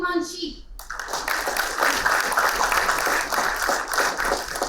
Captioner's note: applauding